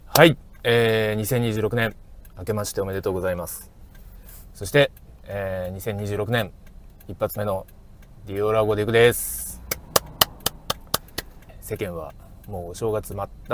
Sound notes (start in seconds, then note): 9.6 clap